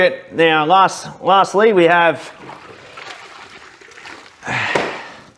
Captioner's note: sighs